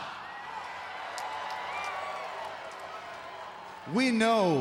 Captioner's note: crowd cheers